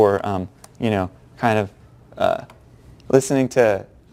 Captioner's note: pause